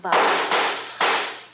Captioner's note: gunshots